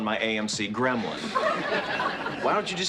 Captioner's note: students laugh